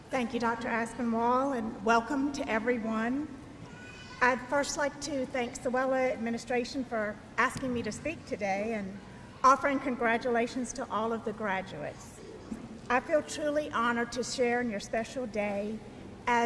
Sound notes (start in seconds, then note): none